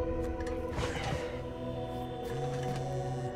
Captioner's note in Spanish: Suspiros